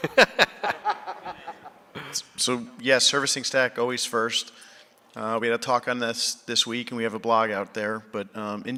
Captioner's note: laughter